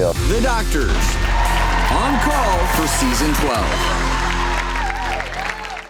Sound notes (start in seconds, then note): 4.2 audience clapping